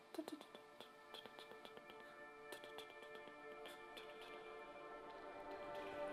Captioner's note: humming